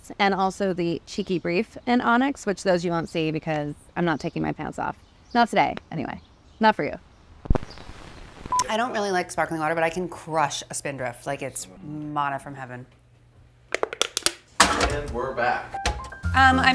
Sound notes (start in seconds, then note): 13.9 crackling